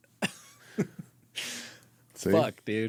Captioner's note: laughing